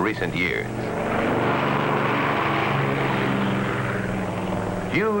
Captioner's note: airplane noises